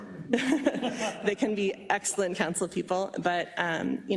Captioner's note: laugh